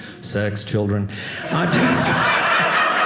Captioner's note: audience laughing